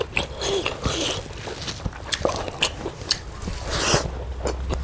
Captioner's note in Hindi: नाक से की जाने वाली आवाज़